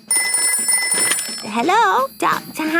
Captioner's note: ringing